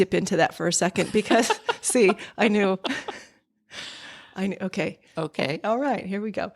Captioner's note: laughter